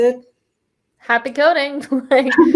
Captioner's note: laughs